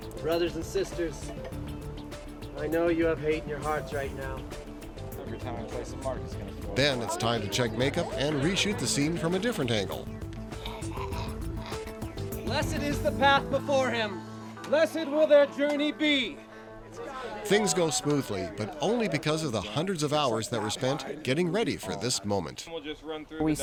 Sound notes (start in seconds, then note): 10.5 gargling sounds